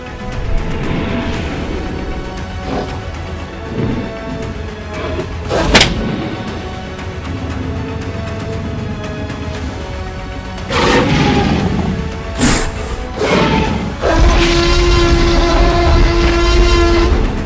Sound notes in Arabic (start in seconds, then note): 5.6 صوت صفعة; 7.8 أصوات T-rex